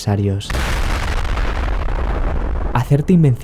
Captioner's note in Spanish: explosión